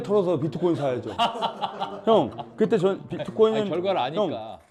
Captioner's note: laughing out loud